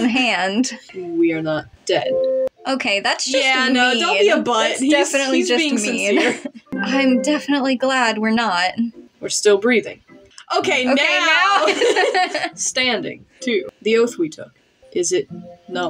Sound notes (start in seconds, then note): 5.9 laugh; 11.5 laugh